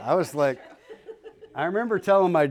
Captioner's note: laughter